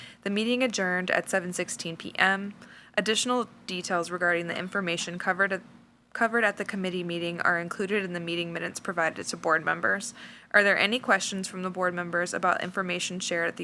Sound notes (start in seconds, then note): none